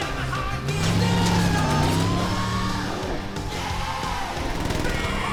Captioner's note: sirens wailing